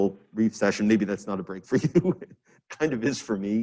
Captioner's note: chuckles